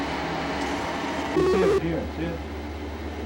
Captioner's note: buzzing/beeping